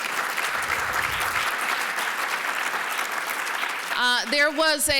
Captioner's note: applause